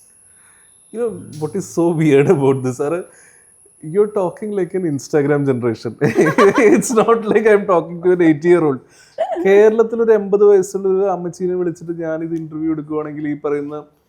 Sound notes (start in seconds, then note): 6.0 laughs